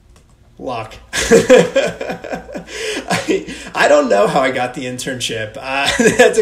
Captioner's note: laughs